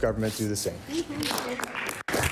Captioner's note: applause